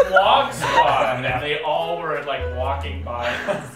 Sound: laughing

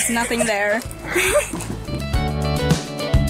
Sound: laughs

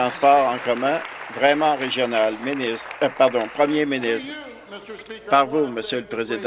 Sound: applause

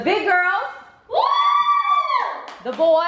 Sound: girls cheering

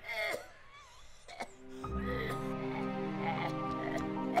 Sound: George coughing

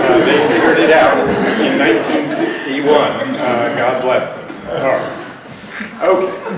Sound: laughter

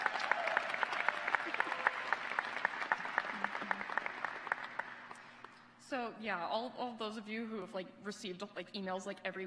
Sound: applause

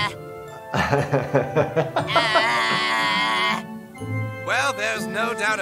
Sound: Cartman phonates

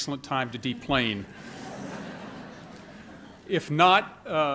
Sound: laughter

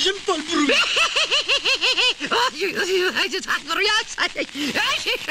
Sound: laughing

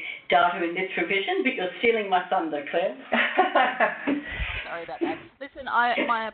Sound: laughs

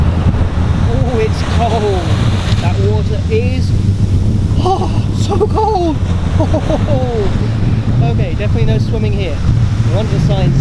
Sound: shiver

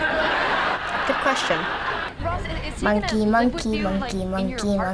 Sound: audience laughs; sing-song

